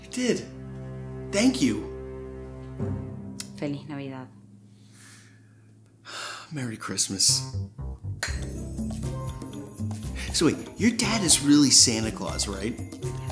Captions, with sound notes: - You did. Thank you. - Feliz Navidad. - (sighs) Merry Christmas. So wait, your dad is really Santa Claus, right?